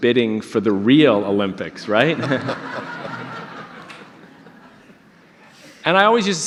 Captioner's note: audience laughter